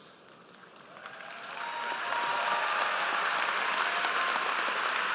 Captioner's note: audience applauds